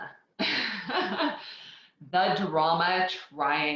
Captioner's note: laughs